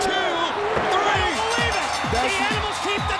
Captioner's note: bell ringing